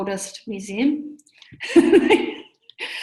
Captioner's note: laughs